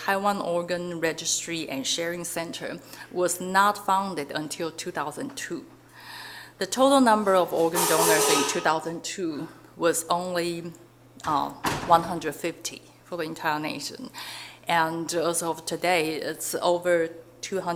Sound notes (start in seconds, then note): 7.7 metal crashing; 12.0 door slamming